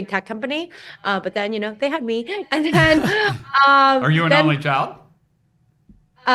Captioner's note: chuckles